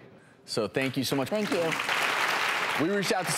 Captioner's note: audience clapping